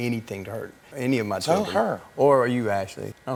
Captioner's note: none